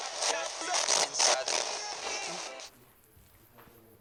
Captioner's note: spirit box voice